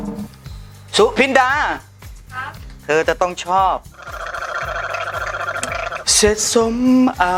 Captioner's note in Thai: เสียงกลั้วคอ